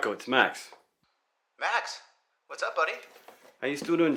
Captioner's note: Marco On Phone